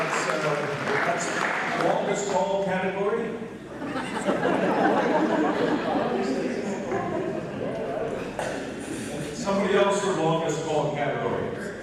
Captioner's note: applause; laughter